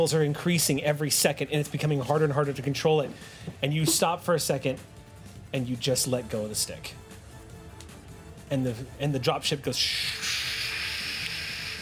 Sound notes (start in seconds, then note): none